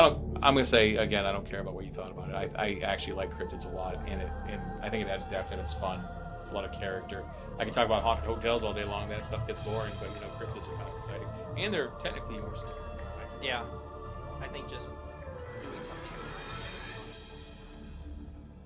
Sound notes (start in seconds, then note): 12.0 dialogue fades